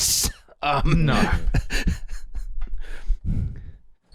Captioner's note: laughs